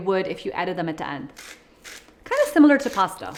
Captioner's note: salt grinder grinds